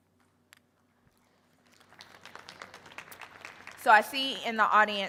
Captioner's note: audience applauding